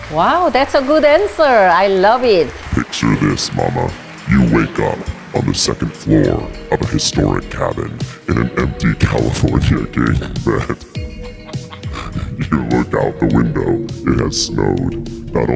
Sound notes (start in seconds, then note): 0.2 audience claps; 9.8 chuckles